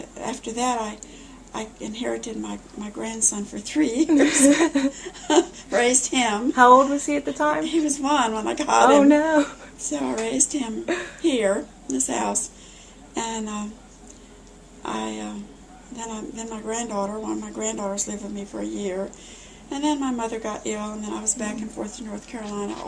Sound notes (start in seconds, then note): 4.0 laughter